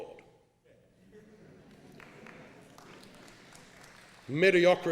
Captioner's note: laughing